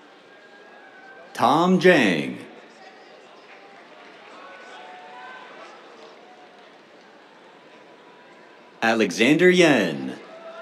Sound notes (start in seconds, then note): 3.4 applause; 10.3 cheers